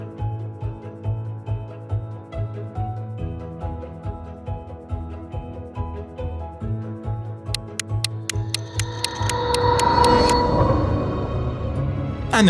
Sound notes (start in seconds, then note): 0.2 gentle music; 7.5 clock ticking; 9.2 dramatic music